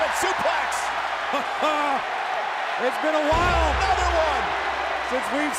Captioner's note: laugh